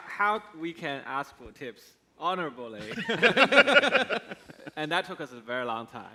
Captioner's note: laughs